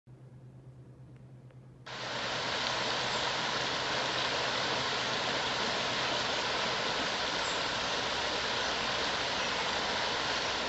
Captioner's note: sound of rushing water